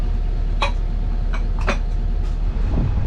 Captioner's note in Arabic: صفائح قعقعة; هدير الرياح